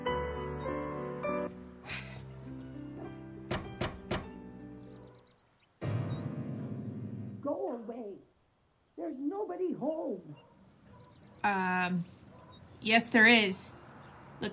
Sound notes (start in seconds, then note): 3.4 knocking on door